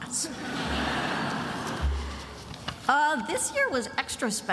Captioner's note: attendees laughing